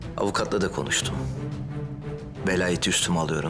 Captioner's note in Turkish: none